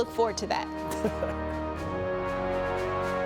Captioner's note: chuckling; energetic music